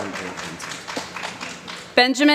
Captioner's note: applause